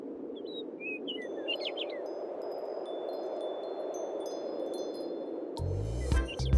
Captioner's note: windchimes